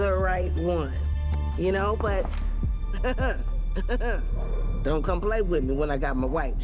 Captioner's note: laughing